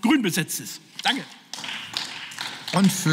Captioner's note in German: Beifall